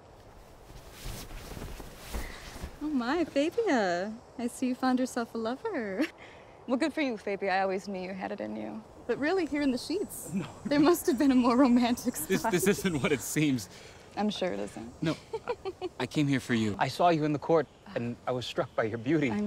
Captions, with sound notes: Oh, my, Fabia. I see you found yourself a lover. Well, good for you, Fabia. I always knew you had it in you. But really, here in the sheets. -No. -There must have been a more -romantic spot. -This isn't what it seems. -I'm sure it isn't. [laughs] -No. I came here for you. I saw you in the court and I was struck by your beauty.